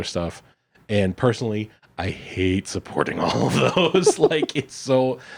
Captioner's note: laughs